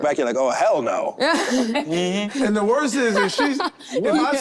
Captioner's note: group laughing